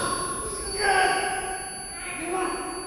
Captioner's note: Mark shouting